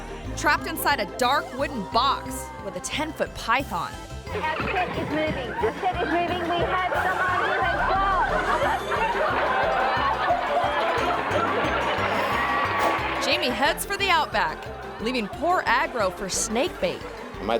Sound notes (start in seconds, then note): 8.5 audience laughing; 8.5 upbeat playful music